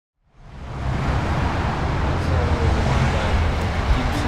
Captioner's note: traffic rumbles; faint music plays